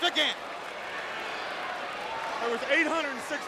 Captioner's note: crowd cheering